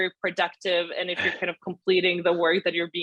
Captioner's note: laughs